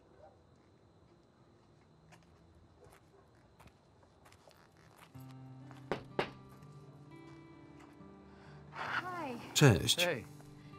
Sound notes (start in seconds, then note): 5.9 knock on door